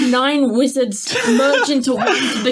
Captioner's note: laughing